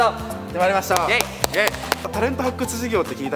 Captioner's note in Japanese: 拍手